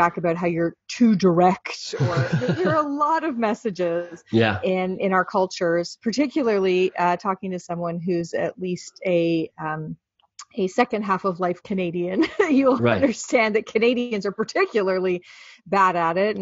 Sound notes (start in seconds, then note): 12.1 laughing